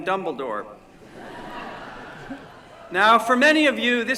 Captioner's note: laughter